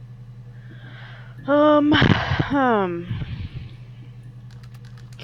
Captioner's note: sigh